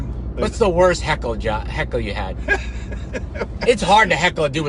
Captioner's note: laughing